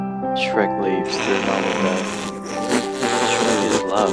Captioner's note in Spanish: Mas risa nasal